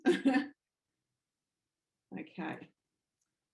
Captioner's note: chuckles